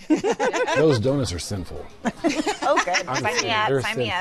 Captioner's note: laughter